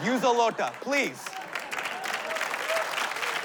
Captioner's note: applause